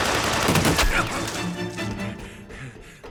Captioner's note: groans; panting